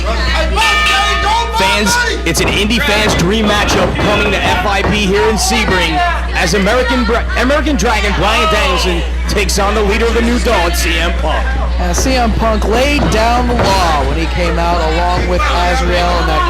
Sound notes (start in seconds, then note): 0.5 bell ringing